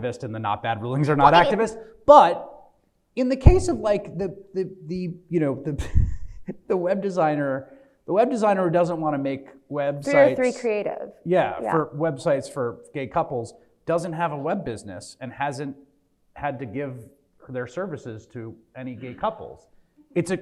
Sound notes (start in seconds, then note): 6.1 laughs